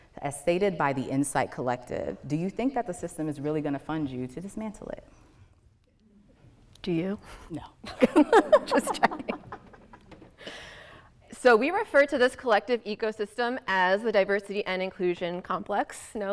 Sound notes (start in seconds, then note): 7.8 women laughing